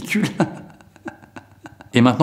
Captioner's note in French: rire chelou